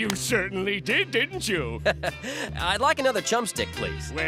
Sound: chuckles

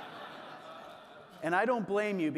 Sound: audience laughing

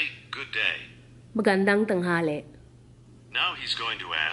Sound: speaks back in Tagalog

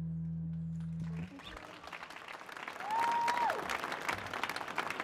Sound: applause

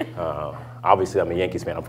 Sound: laughter

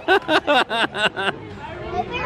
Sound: laughing

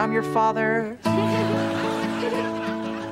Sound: giggling

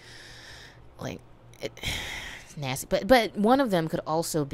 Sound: sigh

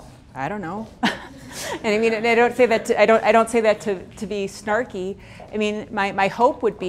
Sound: laughs

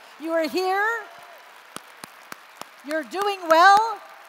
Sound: applause

